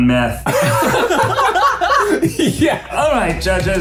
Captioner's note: all laughing